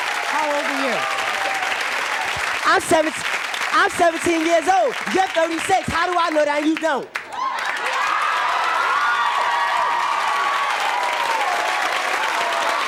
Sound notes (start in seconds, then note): 7.0 audience cheering